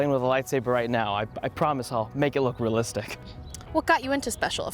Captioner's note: laughs